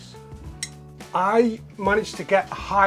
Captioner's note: taps glass